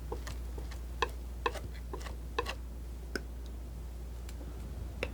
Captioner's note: scratching